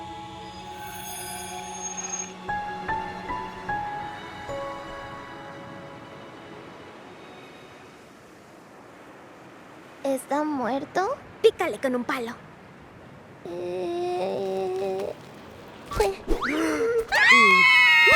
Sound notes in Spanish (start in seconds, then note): 16.6 ¡gasp!; 17.1 Las niñas gritan